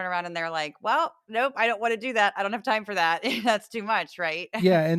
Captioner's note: laugh